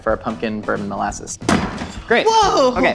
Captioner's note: bang